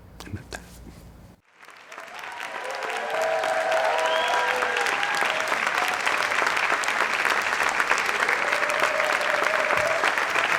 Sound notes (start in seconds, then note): 1.4 audience applauding and cheering